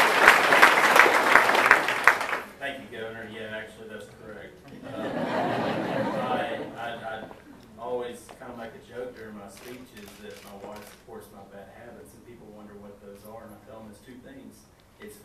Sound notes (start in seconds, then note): 4.6 audience laughs